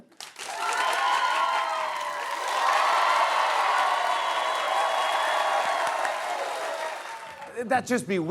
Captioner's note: cheers and applause